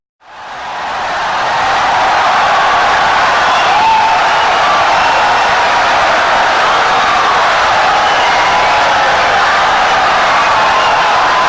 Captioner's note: wild applause and cheering for 17 seconds